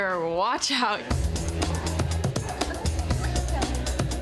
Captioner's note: laughing; upbeat music